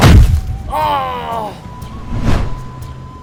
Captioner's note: screaming